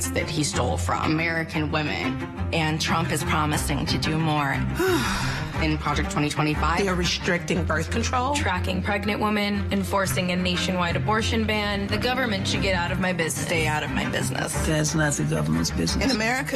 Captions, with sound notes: Bragging about the rights that he stole from American women. And Trump is promising to do more. *sighs* In project 2025. They are restricting birth control, tracking pregnant women, and forcing a nationwide abortion ban. The government should get out of my business. Stay out of my business. ThatŸs not the GovernmentŸs business.